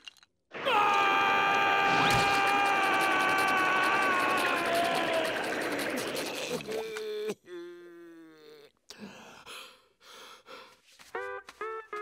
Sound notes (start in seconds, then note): 0.6 screaming; 6.0 gasping